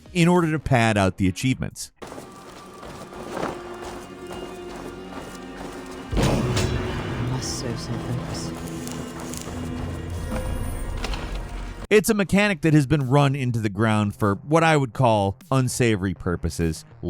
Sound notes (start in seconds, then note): 2.0 footsteps crunching; 2.1 subdued music; 6.4 lever clangs; 8.8 footsteps crunching; 8.8 subdued music